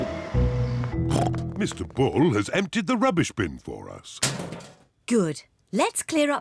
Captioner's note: snorts